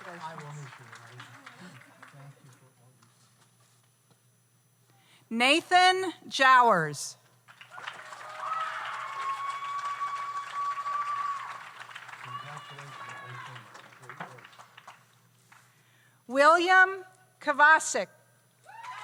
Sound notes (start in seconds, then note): 7.5 audience applauds; 7.7 audience cheers